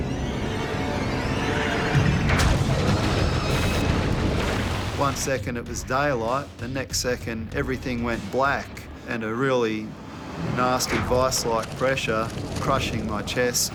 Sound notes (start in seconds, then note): 0.0 strings screech; 2.2 thump